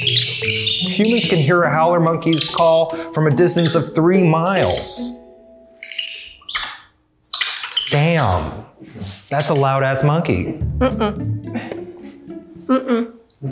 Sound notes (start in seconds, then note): 0.0 loud monkey noises; 5.6 loud money clicks